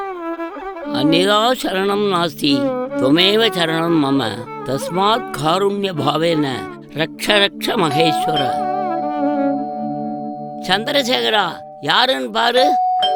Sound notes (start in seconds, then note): 1.0 recites a Sanskrit sloka; 7.9 doorbell dings